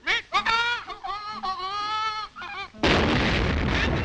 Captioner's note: bird calls; bomb explodes